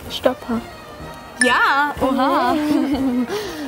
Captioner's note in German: Helles Klingeln